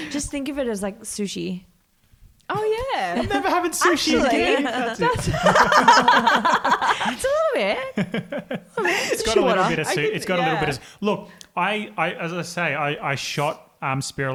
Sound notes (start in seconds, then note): 3.1 all laugh